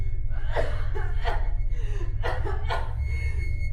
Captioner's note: coughing